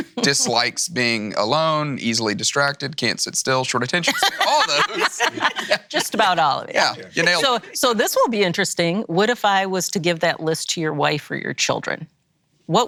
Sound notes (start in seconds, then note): 4.0 laughing